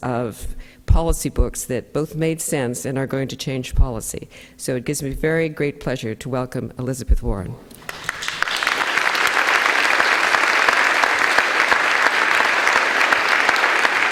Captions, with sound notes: of policy books that both made sense and are going to change policy. So it gives me very great pleasure to welcome Elizabeth Warren. (audience applauding)